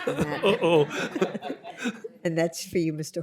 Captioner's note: laughter